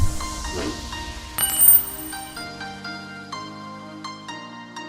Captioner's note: key tinkling